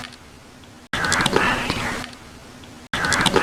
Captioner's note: whispering